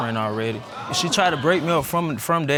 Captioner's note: audience gasping